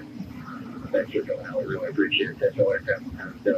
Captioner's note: radio